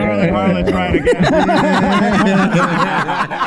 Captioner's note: all laughing